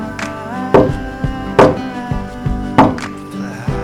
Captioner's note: knocking on the door